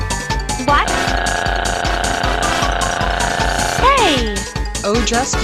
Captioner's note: screaming